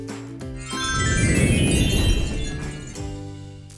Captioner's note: transition tones